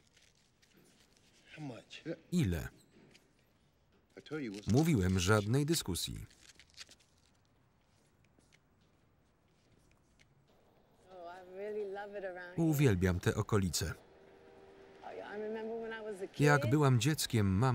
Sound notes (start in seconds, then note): 6.1 velcro ripping